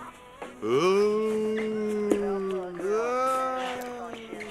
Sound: ghostly whining

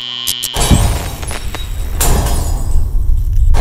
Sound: bulb shatters; glass breaks

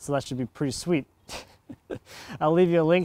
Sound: laughing

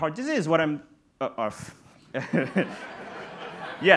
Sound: laughs

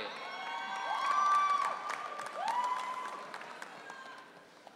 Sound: audience cheering

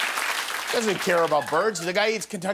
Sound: cheers and applause

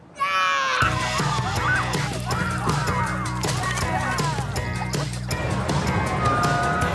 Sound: kids shrieking; upbeat, lively music

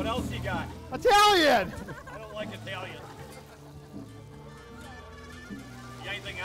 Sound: laughing

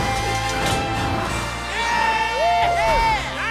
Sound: cheering

